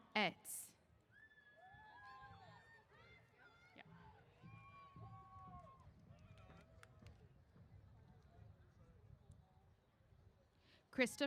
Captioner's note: cheers